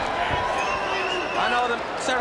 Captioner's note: crowd chatter